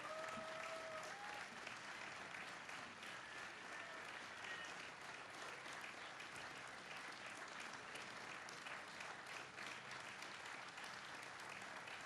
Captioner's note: applause